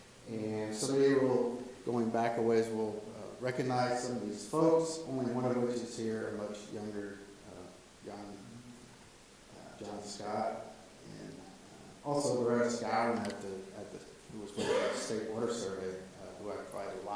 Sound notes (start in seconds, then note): 14.5 audience member coughs